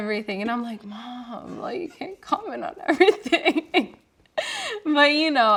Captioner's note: laughing